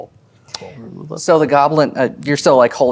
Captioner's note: mumbling quietly